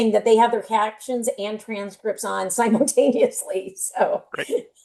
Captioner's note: chuckles